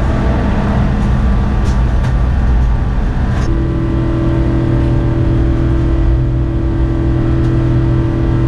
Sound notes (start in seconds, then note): 3.9 plane engine roars